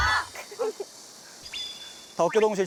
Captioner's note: laughs